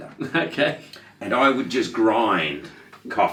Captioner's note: laughing